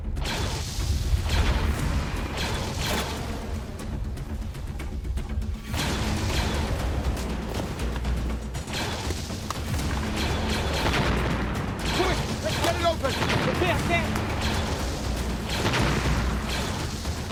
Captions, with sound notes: (blaster fires) (blasters firing) - Quick, let's get it open! - Okay, okay.